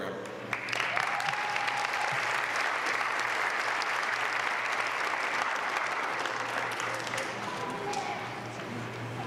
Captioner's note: applause